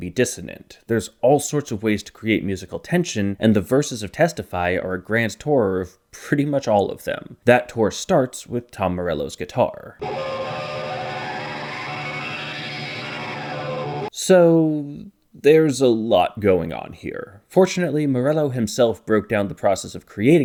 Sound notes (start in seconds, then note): 13.8 bang